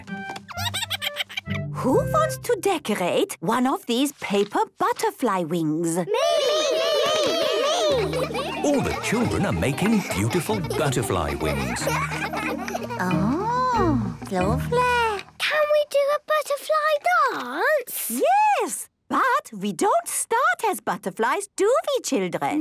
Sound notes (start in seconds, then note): 0.6 giggles; 6.1 all calling out